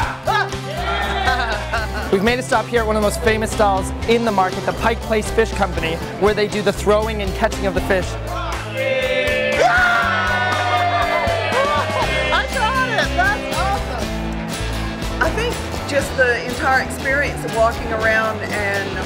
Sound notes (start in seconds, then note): 0.2 yelling; 0.7 laughing; 10.0 cheering